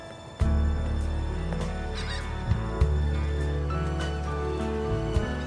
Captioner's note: gentle upbeat music; birds squawking